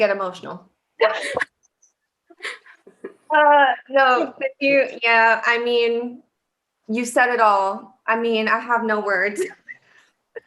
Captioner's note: laughter